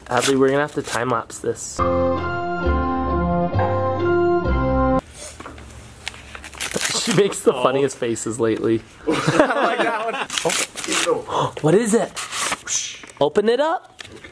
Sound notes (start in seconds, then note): 1.8 music; 9.2 laughing